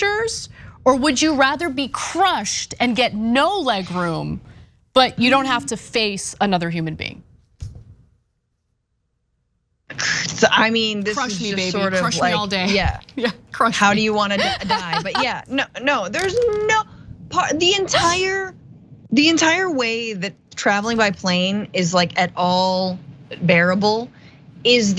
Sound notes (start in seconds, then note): 13.8 laugh